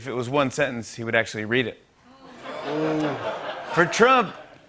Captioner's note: laughter